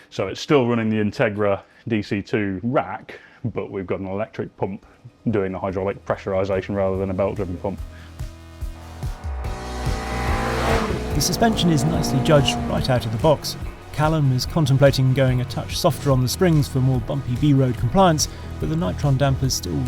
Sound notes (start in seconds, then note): 9.1 groovy music; 10.4 car vrooms